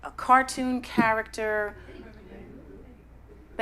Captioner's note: crowd feedback